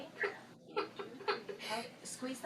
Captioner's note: crying